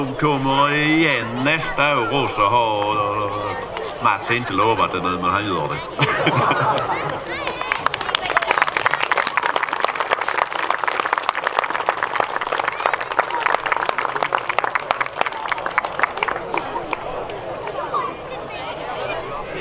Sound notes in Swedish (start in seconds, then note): 8.0 Applåder